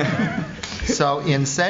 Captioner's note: laughter